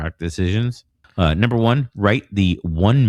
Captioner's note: uh